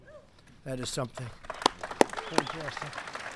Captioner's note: applause